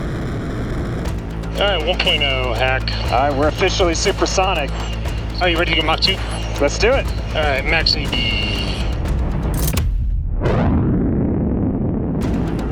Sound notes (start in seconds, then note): 9.5 lever clicking; 10.4 jet whooshing